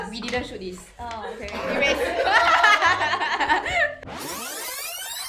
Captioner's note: laughter